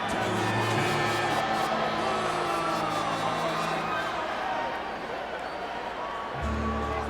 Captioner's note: crowd booing